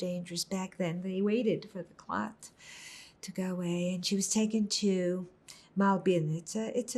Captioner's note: hebrew